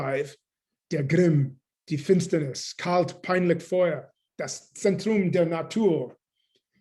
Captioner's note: german